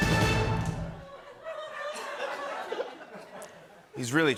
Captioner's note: laughter